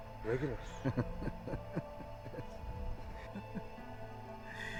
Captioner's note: laughing